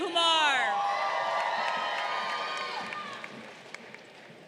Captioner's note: crowd cheering